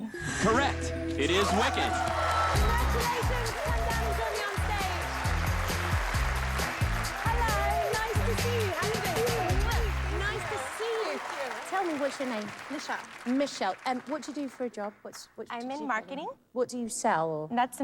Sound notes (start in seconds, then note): 5.0 cheers and applause